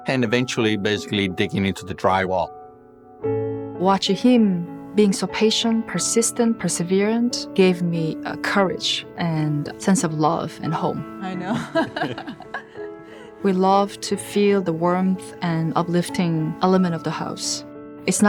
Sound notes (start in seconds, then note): 11.3 laughing